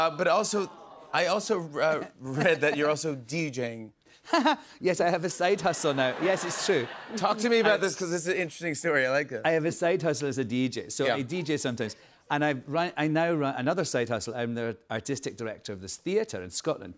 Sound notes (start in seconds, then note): 5.9 laughs